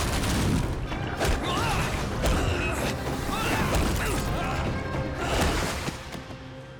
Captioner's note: groaning